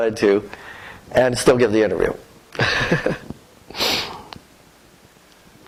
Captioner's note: laughter